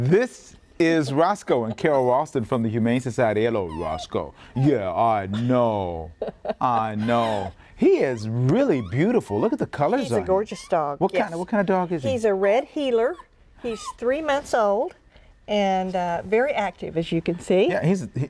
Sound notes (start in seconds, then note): 7.9 whimpering